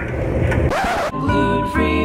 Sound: laughs; record scratch

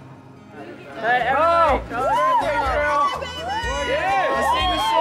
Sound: guests screaming

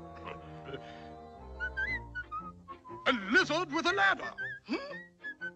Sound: whistling

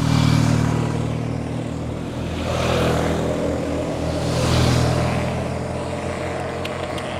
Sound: three motorbikes pass

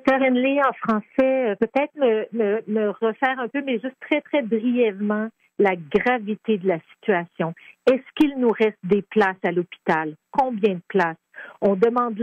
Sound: speaking French

